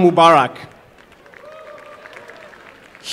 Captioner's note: applause